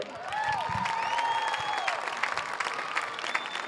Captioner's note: audience cheers